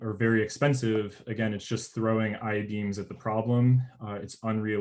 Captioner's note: murmurs